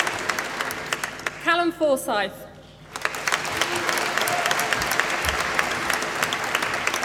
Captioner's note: applause